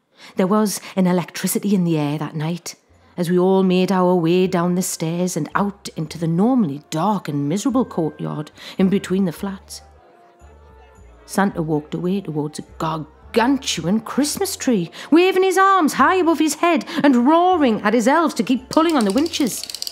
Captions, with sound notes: There was an electricity in the air that night as we all made our way down the stairs and out into the normally dark and miserable courtyard in between the flats. [CROWD CHATTERS. DISTANT CAROL MUSIC] Santa walked away towards a gargantuan Christmas tree, waving his arms high above his head and roaring at his elves to keep pulling on the winches. [WINCH CLICKS]